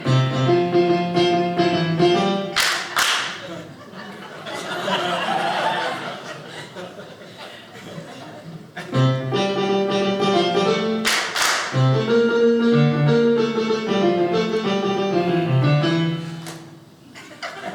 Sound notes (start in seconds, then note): 0.0 piano playing; 2.5 audience claps along; 4.9 audience laughing; 9.0 piano playing; 11.0 audience claps along with song; 12.0 piano plays